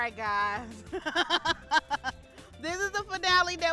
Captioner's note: laughs